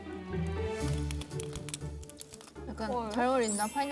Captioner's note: Crunch